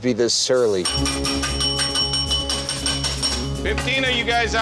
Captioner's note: bell ringing